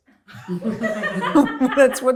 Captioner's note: audience laughs